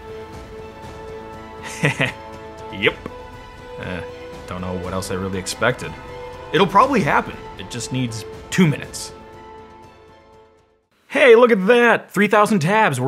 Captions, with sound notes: (chuckles) Yep, I don't know what else I really expected, It'll probably happen, it just needs two minutes. Hey look at that, 3000 tabs,